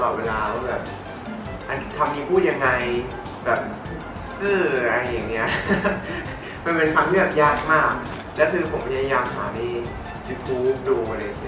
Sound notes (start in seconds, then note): 5.4 laughs